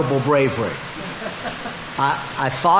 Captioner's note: audience laughing